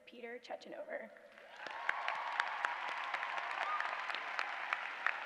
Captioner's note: applause